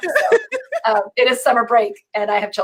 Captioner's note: laughing